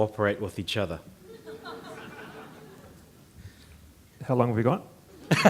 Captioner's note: audience chuckling